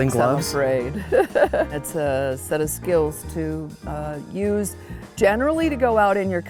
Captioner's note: laughs